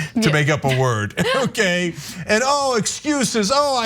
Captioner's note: laugh